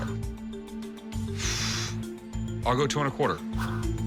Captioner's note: tense music playing; huffs